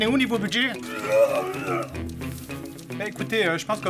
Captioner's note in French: Vomi